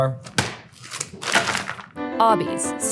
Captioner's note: fries pack thudding; plastic crinkling